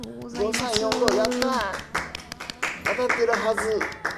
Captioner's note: applause